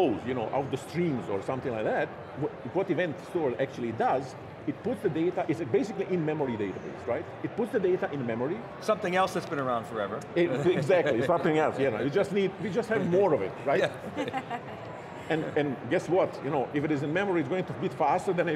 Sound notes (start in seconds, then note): 13.8 laughing